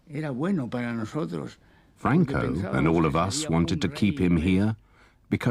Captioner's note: speaking foreign language